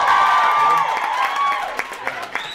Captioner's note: audience cheers